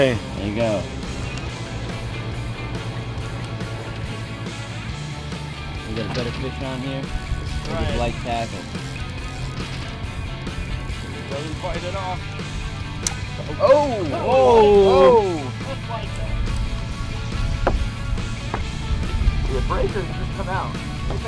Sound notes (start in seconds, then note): 1.8 lively music playing; 8.0 sound of line reeling; 13.0 snapping sound; 13.3 men shouting disappointedly; 15.0 indistinct chatter